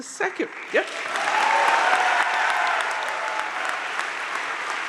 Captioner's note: crowd cheering